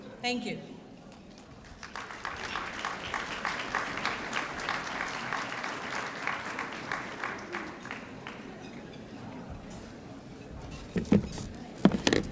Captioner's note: applause